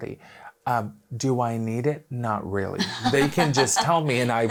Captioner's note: laughing